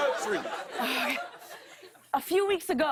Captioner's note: laughter